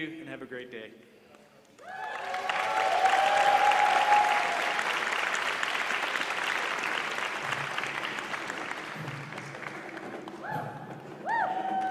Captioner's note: applause